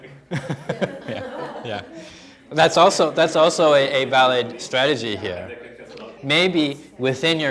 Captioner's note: chuckling